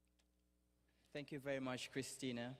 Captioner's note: none